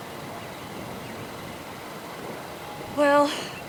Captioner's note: wind whooshing